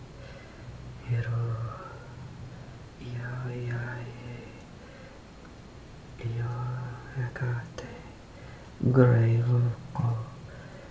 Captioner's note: foregin language